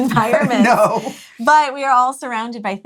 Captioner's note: laughs